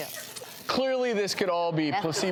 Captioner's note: paper rips